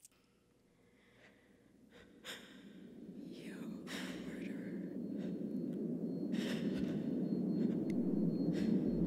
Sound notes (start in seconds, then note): 3.1 ears ringing and internal whispers start